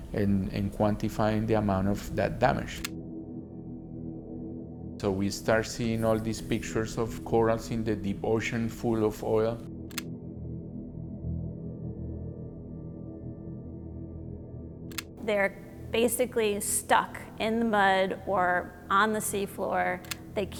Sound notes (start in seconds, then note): 9.9 camera clicks; 11.0 somber music